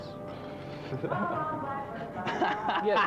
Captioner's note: laughing